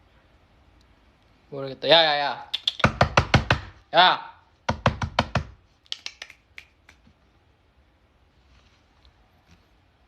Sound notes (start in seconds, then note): 1.2 dog summoning noises again